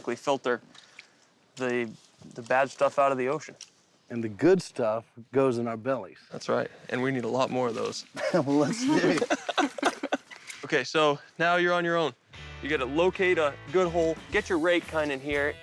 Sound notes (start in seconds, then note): 8.2 laughter